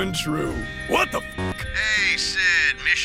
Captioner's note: alarm going off